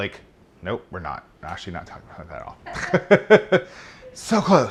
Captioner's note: laughing